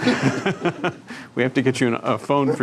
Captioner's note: people laughing